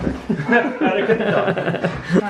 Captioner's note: both laugh